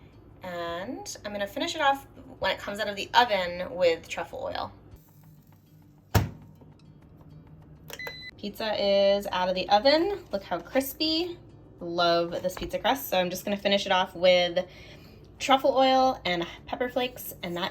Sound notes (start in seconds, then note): 6.1 oven door slamming; 7.6 timer beeping